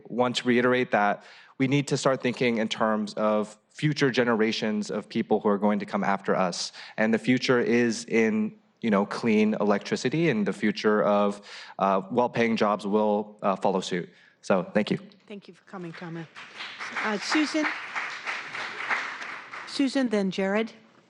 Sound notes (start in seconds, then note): 13.8 applause